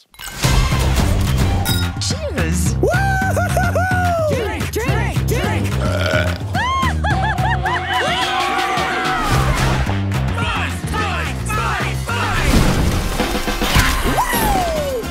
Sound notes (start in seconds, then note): 0.2 adventurous music; 5.4 belches; 10.4 chanting